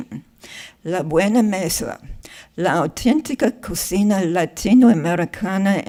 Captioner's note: speaking in foreign language